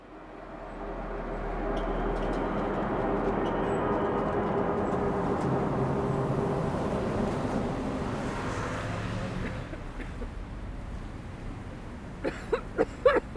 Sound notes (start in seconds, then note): 0.2 eerie noise; 7.5 street din; 9.2 vigorous coughing